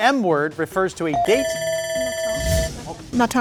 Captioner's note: timer ringing; buzzer dings; speaks faintly